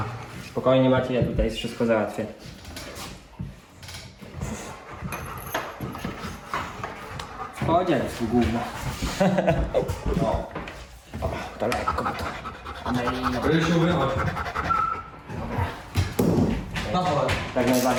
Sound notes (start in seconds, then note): 14.4 dog